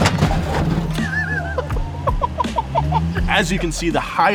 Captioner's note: both laughing